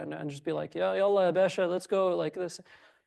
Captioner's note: speaks foreign language